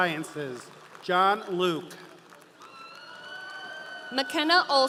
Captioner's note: audience cheering